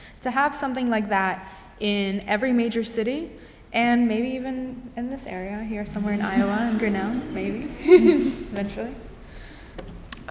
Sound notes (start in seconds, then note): 5.8 audience giggles; 8.4 giggles